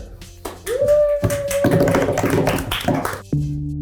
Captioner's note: cast cheering